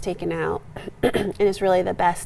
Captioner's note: clearing throat